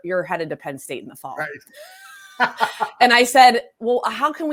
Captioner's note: laughs